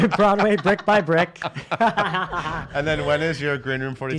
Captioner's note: laughs